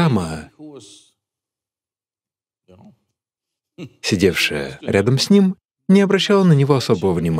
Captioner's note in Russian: Смеется